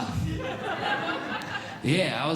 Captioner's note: audience Laughing